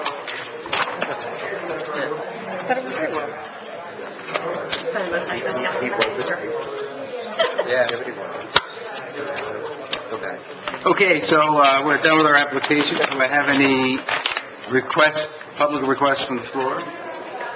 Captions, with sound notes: (crowd drowns out board) - Okay, so we're done with our applications. Do we have any requests, public questions from the floor?